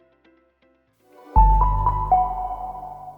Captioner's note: bright chiming